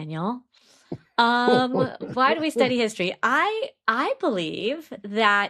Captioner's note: chuckles